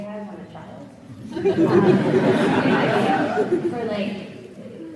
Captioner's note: audience laughs